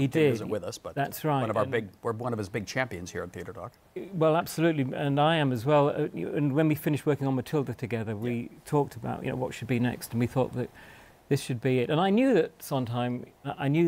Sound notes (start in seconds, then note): none